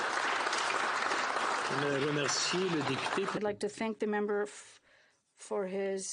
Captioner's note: applause